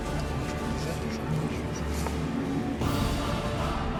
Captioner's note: speaking in Russian